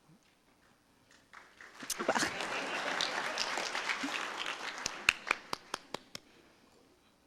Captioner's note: audience applause